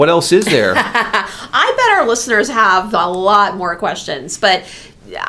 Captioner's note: laughs